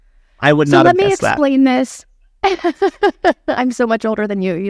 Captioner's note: laughing